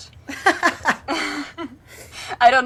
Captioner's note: laughing